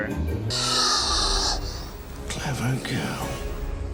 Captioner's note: velociraptor shrieks